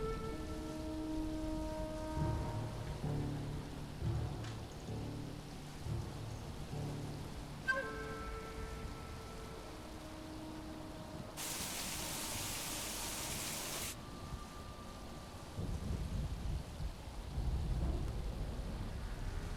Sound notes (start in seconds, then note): 11.4 rain pelting